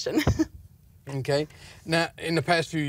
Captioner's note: laughter